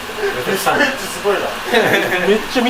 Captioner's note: laughs